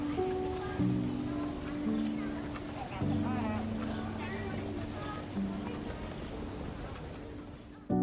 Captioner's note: children talking